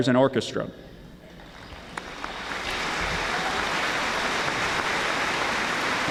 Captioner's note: audience applauding